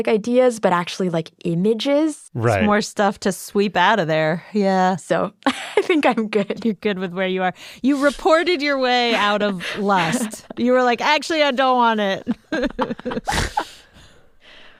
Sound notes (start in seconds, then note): 13.2 laughs